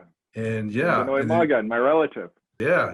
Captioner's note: speaks foreign language